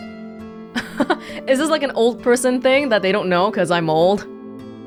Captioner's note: chuckles